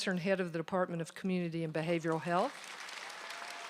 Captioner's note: applause